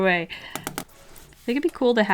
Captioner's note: tap-tap-tap